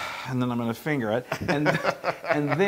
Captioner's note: laugh